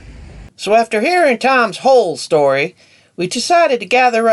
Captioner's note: voiceover